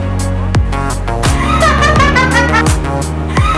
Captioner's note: scary laughter; scary laughter again